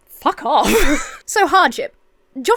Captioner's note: Emma laughs